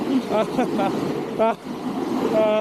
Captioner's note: sound of riding